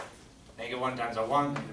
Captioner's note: voiceover